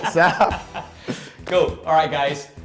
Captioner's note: both laugh